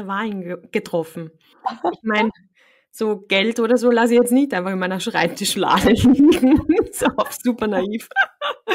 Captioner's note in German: lachen